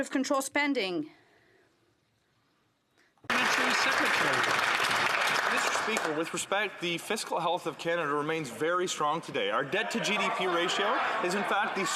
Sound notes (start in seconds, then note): 6.5 some Applause